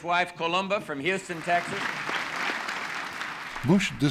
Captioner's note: audience applauding